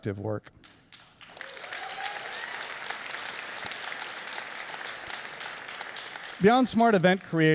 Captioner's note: audience cheering and applauding